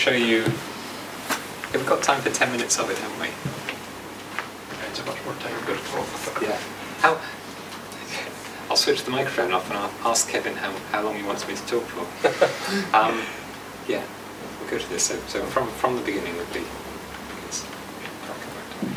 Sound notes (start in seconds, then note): 10.4 laughs